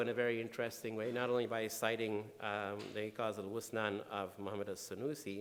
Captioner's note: speaking in foreign language